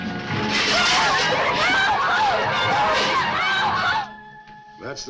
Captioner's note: passengers shouting